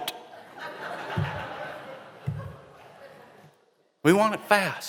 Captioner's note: laughter